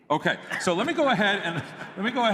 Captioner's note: laughter